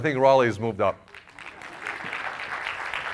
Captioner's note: applause